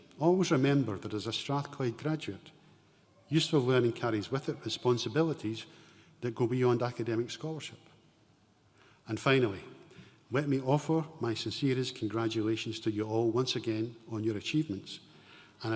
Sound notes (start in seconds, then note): none